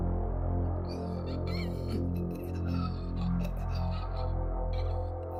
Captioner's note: Terry gasping